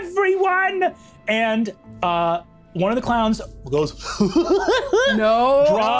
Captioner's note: chuckles maniacally